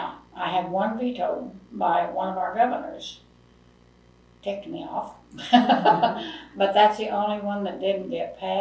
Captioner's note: laughs